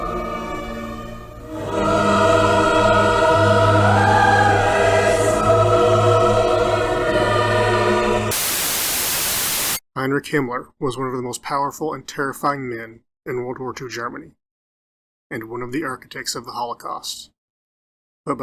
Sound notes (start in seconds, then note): 4.7 Static